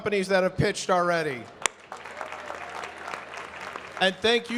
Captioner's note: audience clapping